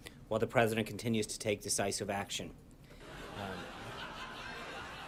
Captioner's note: raucous laugh track